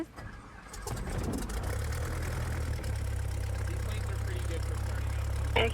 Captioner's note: engine rumbles to life